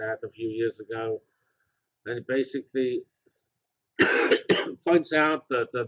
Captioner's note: cough